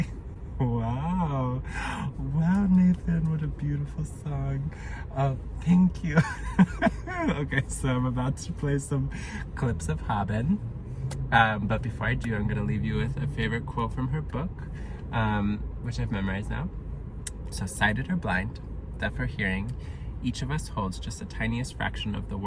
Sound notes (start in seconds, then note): 2.7 small claps; 6.0 laughs to self